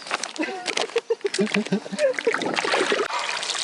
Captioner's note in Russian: смех